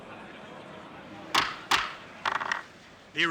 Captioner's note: gavel bangs